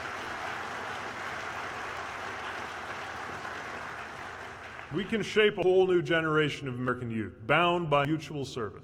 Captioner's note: applause